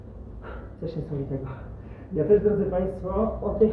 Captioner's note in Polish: Wzdycha